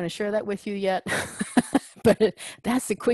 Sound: laugh

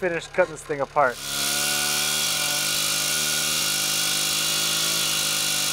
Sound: chainsaw engine roaring

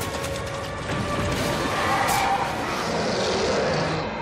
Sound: screeching

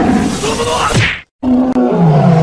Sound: roaring; smack; roaring

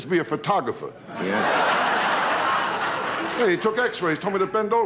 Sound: audience laughing

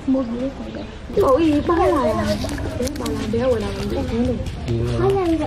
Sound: children speaking

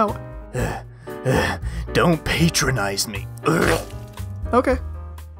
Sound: heavy breathing

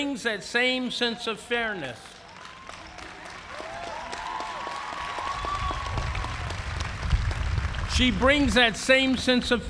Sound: cheers and applause

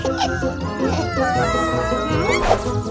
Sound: whimpering

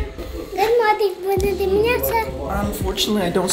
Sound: speaking Romanian

